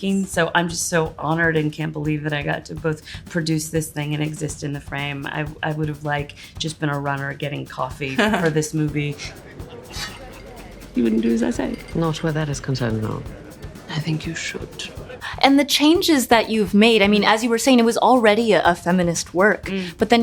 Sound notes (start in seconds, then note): 8.0 Nia laughs; 9.5 guests chatter